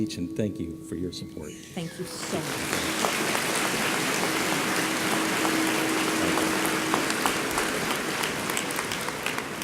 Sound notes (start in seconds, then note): 1.9 audience applauding